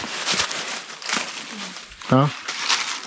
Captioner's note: leaves crunching